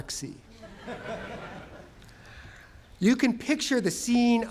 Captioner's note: laughter